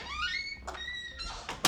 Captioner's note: door creaks